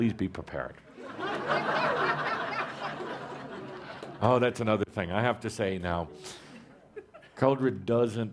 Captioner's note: laughter